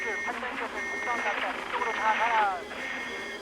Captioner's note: beeping